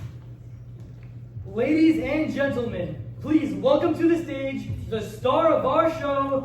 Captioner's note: into a loudspeaker